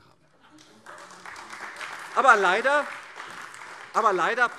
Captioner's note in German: Beifall : Sie sind ja so klug!